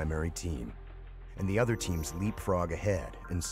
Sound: voiceover

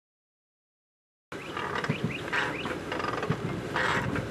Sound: bellows creaking

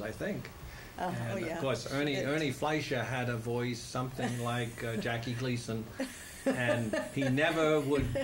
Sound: laughter

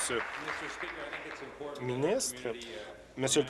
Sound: applause

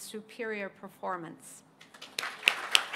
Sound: applause

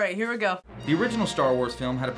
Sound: voice-over

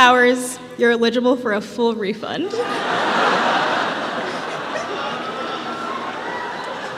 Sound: laughter

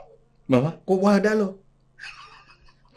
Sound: laughs

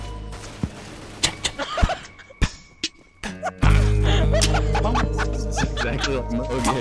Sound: teammate laughing

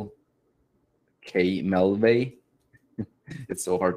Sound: chuckles

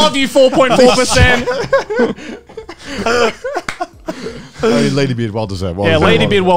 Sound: laugh

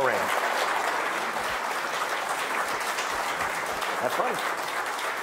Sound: audience applauding

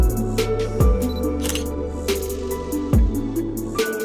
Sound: camera shutter clicks

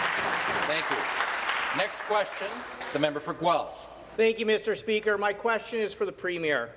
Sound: some Applause

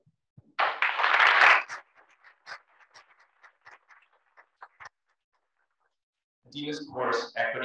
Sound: applause

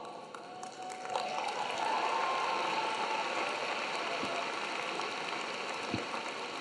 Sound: audience clapping; audience cheering

